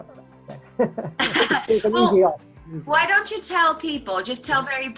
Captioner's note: laughs